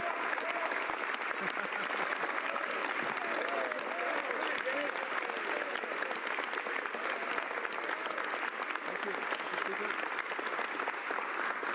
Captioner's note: applause